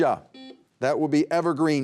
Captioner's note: buzzer beeping